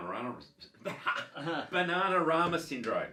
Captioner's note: both chuckle